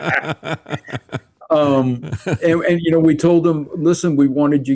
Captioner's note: laughing